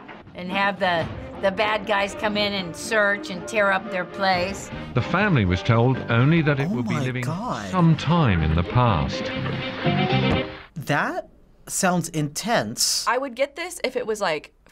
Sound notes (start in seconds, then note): 4.6 voice-over; 7.8 voice-over